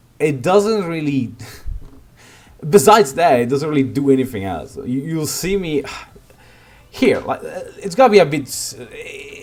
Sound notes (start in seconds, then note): 5.9 hrm